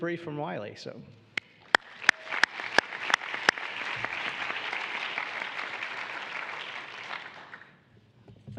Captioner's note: applause